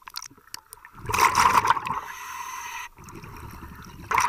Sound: water gurgles

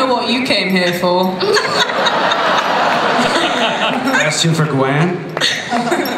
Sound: laughter

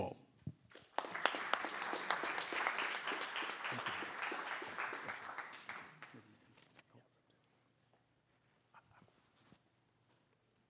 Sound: applause

